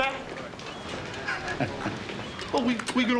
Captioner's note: laughs